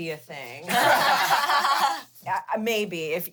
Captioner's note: everyone laughs